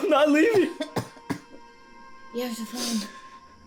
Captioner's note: Carrie coughing